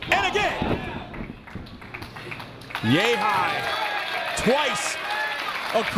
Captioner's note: applause